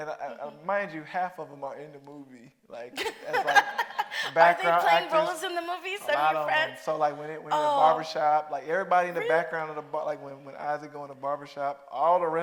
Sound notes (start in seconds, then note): 3.0 Mireille laughing